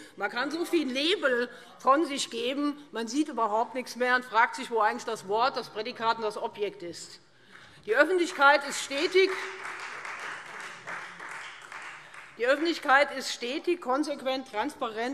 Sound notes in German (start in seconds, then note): 8.2 Beifall Freie Demokraten und vereinzelt SPD